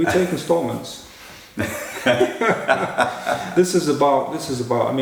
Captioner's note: laughter